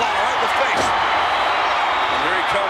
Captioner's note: audience cheers